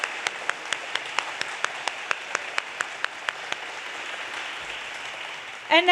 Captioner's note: audience cheers and applause